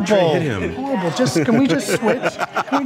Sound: laughs

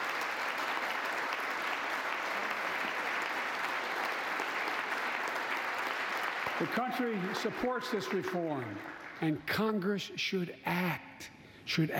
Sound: applause

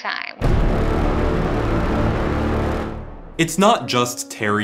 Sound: suspense boom

